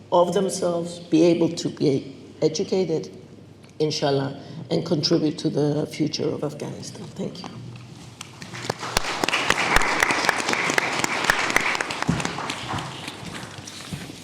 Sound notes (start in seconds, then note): 8.2 audience clapping